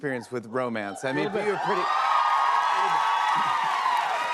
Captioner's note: cheers and applause